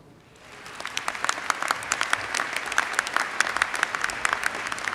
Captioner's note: audience applauds